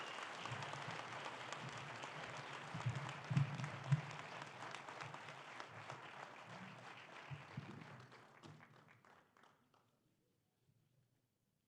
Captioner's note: applause